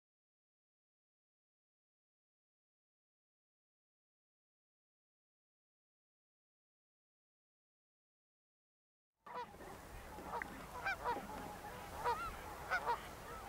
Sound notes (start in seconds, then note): 9.3 geese honking